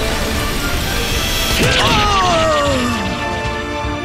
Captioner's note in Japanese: アダプターの叫び声